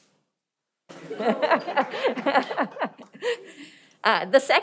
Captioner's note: laughing